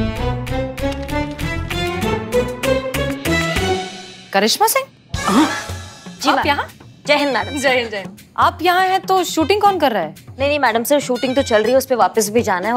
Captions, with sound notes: [comical music] - Karishma Singh. - [exclaims] - What are you doing here? - Yes, ma'am. - Long live the nation. - Long live the nation. Who's shooting if you are here? The shooting is happening, I need to return there.